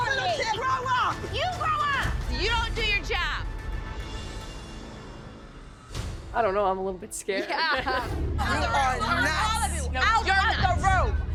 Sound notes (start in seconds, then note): 7.3 all laugh